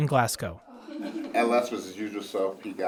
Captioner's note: residents chuckle